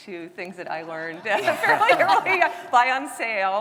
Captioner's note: all laughing